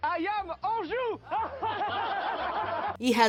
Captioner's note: laughter